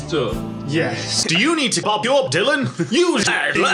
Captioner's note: giggles